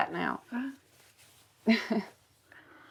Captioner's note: laughs